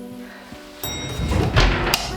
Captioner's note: elevator door dings